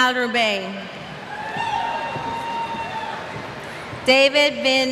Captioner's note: cheers